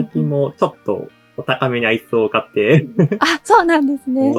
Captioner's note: chuckles